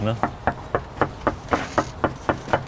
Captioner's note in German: Klopfen